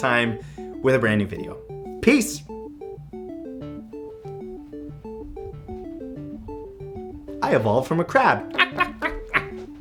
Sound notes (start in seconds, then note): 2.7 techno music; 8.5 clucking